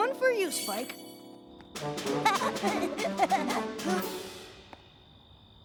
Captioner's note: giggling